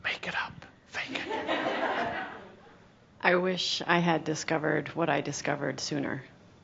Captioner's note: some chuckles